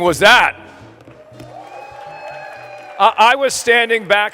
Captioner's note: applause